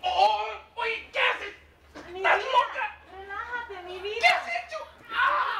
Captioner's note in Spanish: Gritos